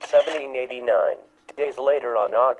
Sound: shutter click sound

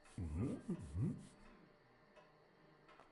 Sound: mutters

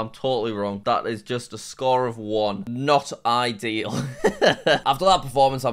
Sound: laughs

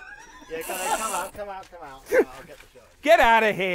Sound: laughter

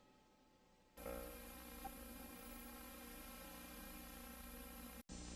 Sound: VHS static

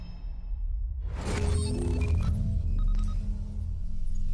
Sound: beeping

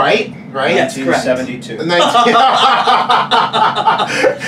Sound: laughs

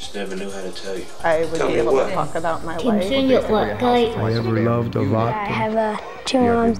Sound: voiceover; cacophony of voices

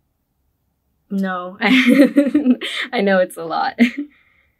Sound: laughs

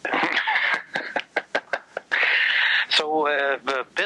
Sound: laughs

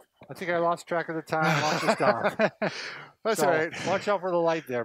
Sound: laughs

